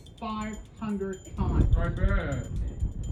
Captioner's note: altered/distorted